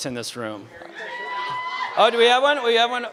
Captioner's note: scream from someone in audience